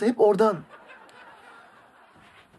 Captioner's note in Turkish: Gülme efekti